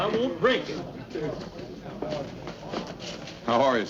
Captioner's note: crowd speaking indistinctl